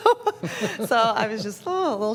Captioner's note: laughter